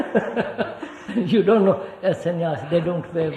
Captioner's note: laughs